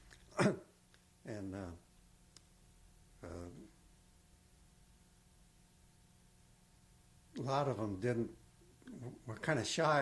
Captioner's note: pauses for 6 seconds